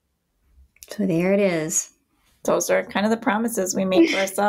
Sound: laughs

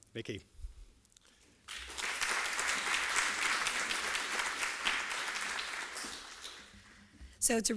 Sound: applause

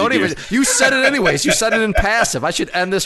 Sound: laughs

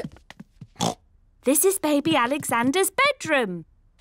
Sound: oinks

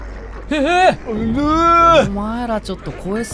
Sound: both gasp nervously

